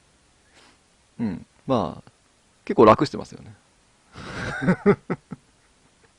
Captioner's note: laughs